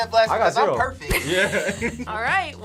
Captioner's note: laughs